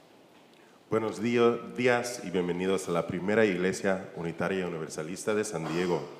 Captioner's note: church member speaking in Spanish